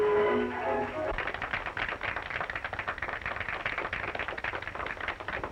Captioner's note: audience applauding